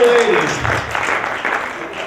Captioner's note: applause